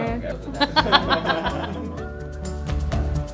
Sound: laughing

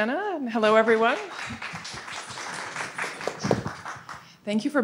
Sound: audience applauds

